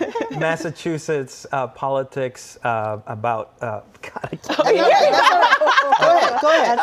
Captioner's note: laughter